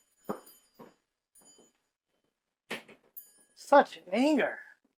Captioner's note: door bell